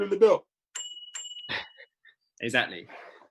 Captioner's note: bell ringing